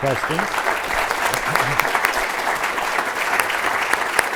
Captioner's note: audience applauds